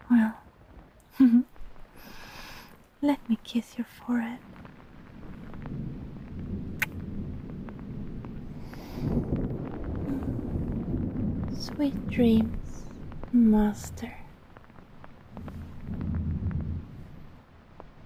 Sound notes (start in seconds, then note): 6.7 kiss